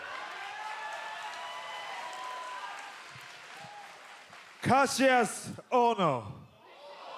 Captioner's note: cheers and applause